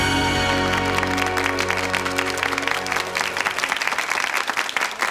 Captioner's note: audience clapping